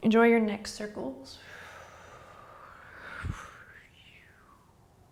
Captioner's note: exhaling